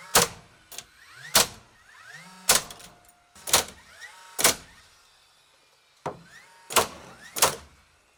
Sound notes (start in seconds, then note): 1.3 nail gun popping